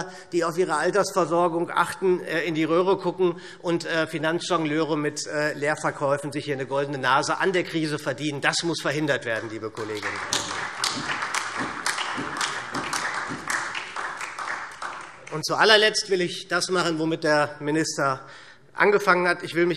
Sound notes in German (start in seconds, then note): 9.2 Beifall SPD und vereinzelt DIE LINKE